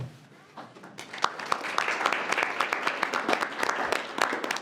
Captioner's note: group applauding